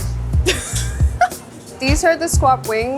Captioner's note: chuckles